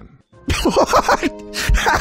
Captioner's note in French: rigole